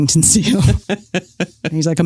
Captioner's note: laughs